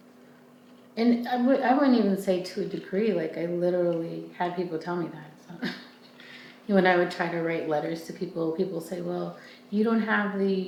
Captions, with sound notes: And I wouldn't even say to a degree, like I literally had people tell me that, so. (chuckles) When I would try to write letters to people, people say, well, you don't have,